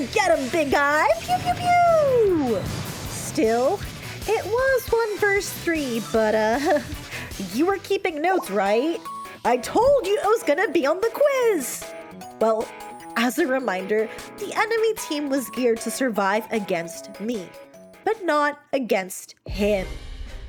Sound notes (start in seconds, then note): 0.8 sfx: Explosions; 6.5 chuckle